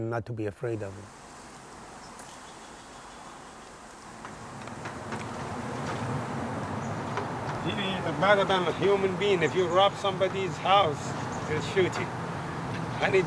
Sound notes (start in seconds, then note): 1.2 gentle hum of many bees